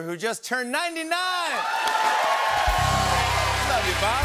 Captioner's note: cheers and applause